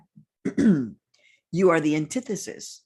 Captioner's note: clears throat